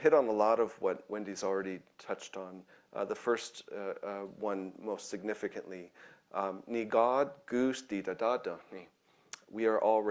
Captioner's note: speaking in own language